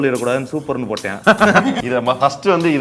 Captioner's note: laughs